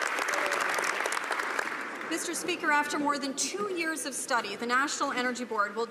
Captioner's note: some Applause